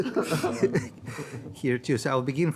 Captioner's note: panel laughs